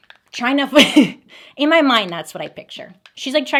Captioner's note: laughs